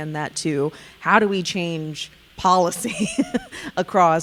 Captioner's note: laughing